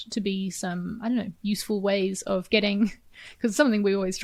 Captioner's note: chuckles